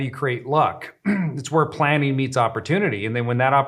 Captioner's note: clears throat